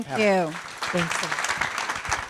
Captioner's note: attendees applaud